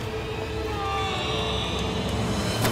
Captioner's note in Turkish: Bağırıyor